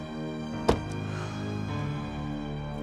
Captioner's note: sighs